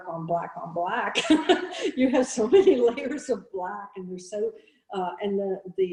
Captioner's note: laughing